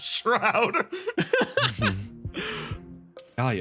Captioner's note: laughs